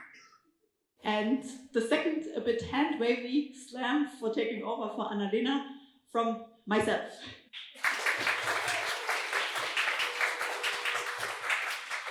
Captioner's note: applause